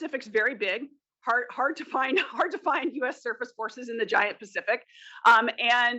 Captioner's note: laugh